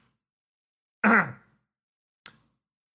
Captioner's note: clears Throat